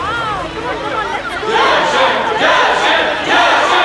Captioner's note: Crowd cheering